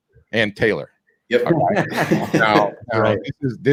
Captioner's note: laughing